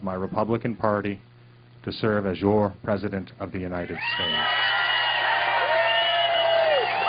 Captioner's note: cheers and applause